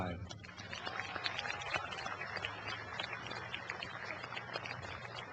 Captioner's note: cheering and applause